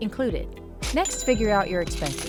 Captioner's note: cash register dings